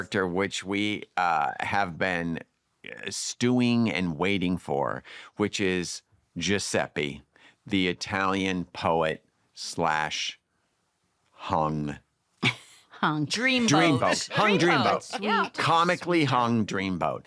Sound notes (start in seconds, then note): 13.6 chuckles